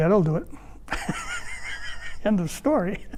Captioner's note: laughs